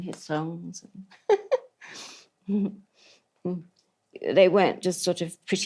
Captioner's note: laughs